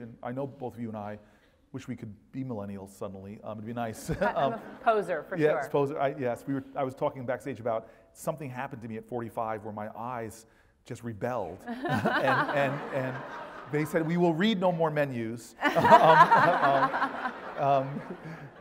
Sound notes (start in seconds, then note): 11.7 laugh; 15.6 laugh